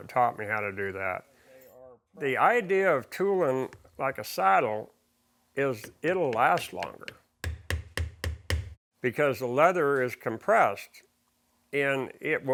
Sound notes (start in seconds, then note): 7.4 hammering on leather